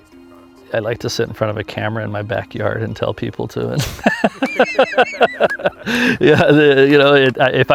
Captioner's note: laughing